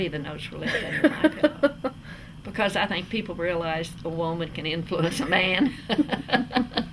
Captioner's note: laughter